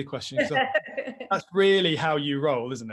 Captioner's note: laughs